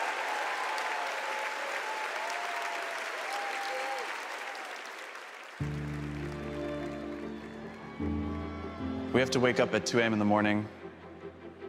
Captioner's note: cheers and applause